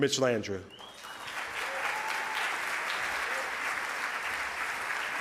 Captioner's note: audience applause